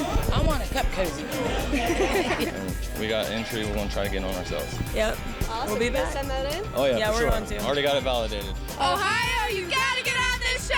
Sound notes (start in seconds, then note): 1.0 laughter